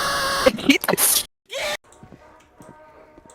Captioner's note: laughs